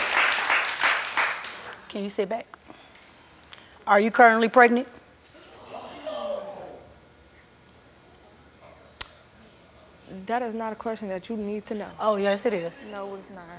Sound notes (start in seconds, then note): 5.5 audience oohing